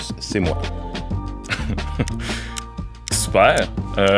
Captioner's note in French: petit rire